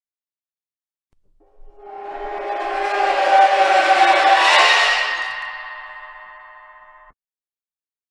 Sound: horror screech

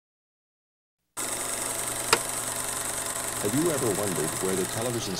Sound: projector clicking

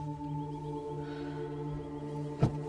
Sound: exhales

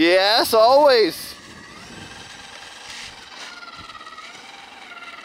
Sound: engine roaring

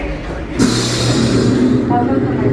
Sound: guests chatter loudly; door hisses

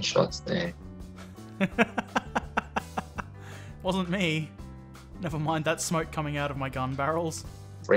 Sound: laughter

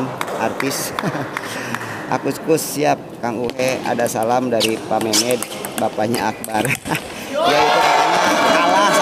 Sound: applause

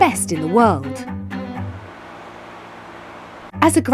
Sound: machine whirring

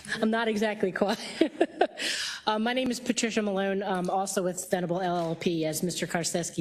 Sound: laugh

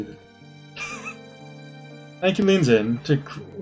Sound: laughs softly

